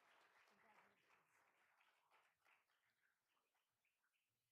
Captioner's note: all applauding